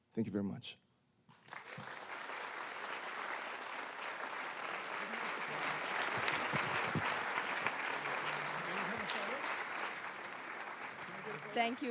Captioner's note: applause